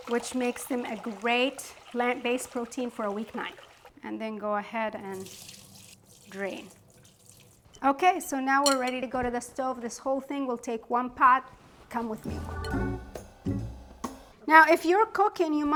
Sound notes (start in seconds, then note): 5.0 water pouring; 12.1 gentle jazz music